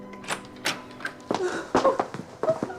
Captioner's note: Menghembuskan napas